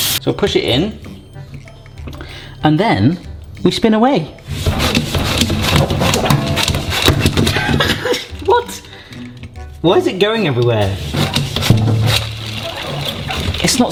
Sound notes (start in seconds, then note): 0.0 water flowing; 4.9 Spina whooshing; 7.5 laughing; 11.4 Spina whooshing